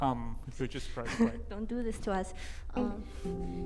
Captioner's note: laughs